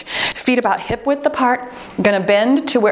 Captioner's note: timer beeps